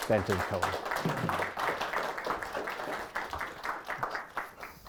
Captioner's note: audience applauding